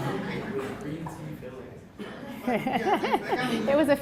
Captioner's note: laugh